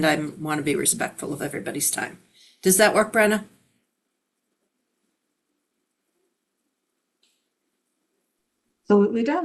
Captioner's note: pause